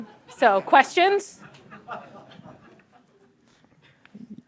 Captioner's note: laughter